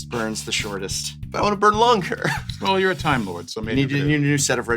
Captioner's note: laughs